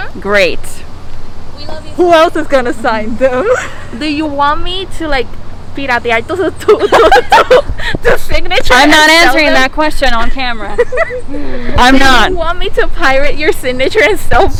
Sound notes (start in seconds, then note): 6.6 scandalous laughter